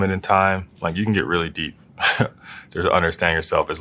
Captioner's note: laugh